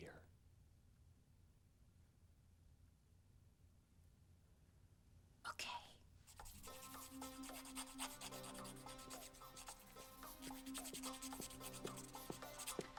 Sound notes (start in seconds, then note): 6.0 whispering